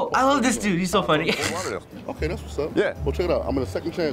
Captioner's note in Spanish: risitas